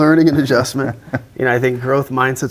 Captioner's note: laughing